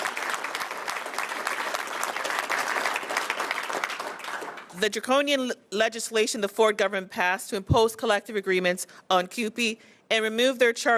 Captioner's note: applause